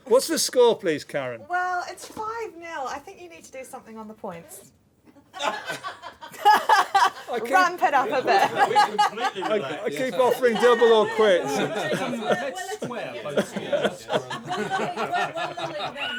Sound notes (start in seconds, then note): 5.0 laughter